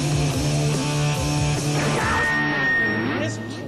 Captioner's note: microphone feedback